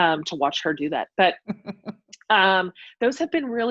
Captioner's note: laughs